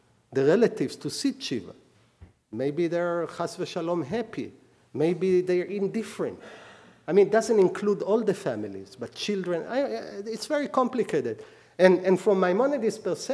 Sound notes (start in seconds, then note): 3.6 speaking hebrew